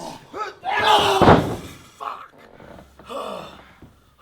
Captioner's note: thump; grunting